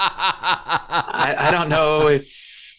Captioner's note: laughter